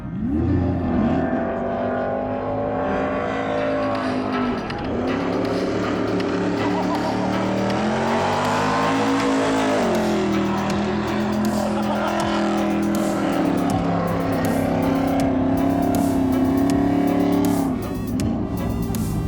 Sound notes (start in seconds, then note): 11.2 laughing; 12.1 engines revving; 12.1 upbeat music